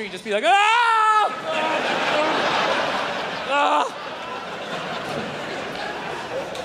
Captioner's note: screams; crowd laughs